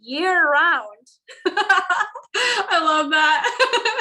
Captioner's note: laughs